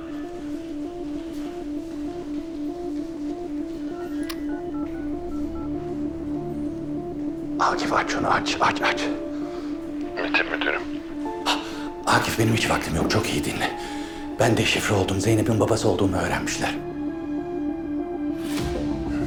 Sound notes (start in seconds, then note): 14.8 Akif voice